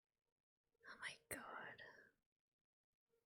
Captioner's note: whispers